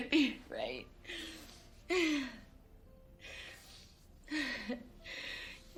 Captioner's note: sobs